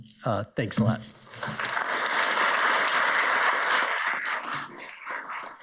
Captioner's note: audience applauds